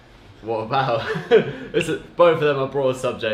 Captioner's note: laugh